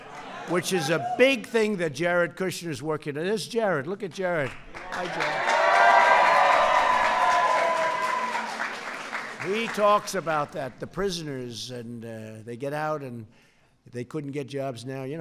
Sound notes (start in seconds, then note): 4.4 applause